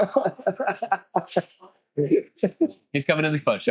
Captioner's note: laughter